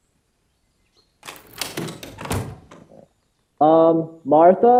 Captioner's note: door opening and slamming